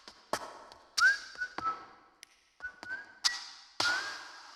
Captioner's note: whistling